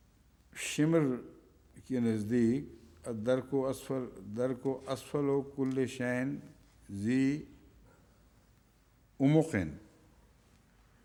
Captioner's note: Arabic